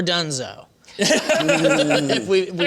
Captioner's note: laughter